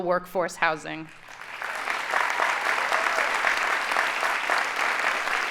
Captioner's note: audience applauding